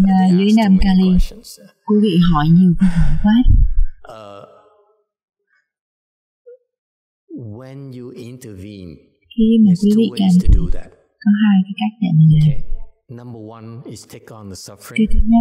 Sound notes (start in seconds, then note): 2.1 sigh